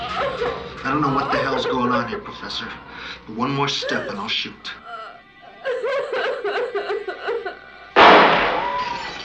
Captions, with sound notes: I don't know what the hell's going on here, professor, but one more step, and I'll shoot. (crying) (gunshot)